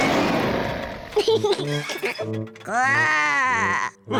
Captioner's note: laughs; growls; all laugh